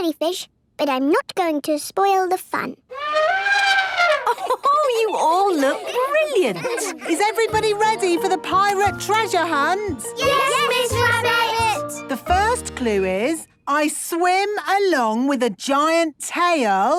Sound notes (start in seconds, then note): 2.9 trumpeting; 4.0 Mummy Pig laughing